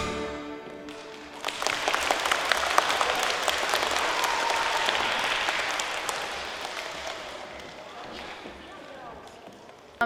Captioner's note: applause